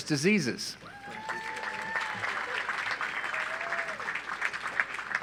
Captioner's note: audience applauds